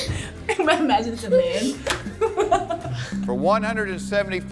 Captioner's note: both laugh